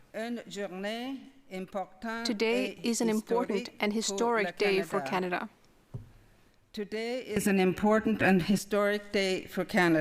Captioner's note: speaking French